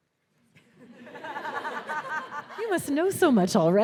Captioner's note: audience laughing